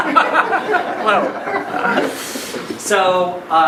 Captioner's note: laughing